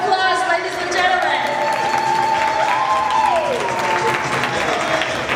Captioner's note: applause